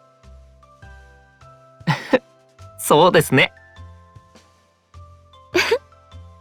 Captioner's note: laugh